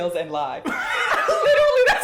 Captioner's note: laughs